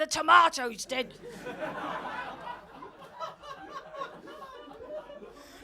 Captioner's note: audience laughing